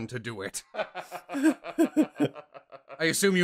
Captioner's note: laughter